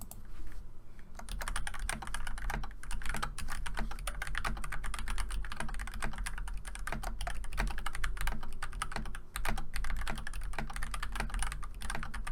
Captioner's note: typing sounds